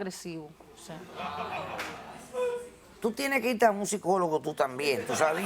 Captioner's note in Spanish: Risas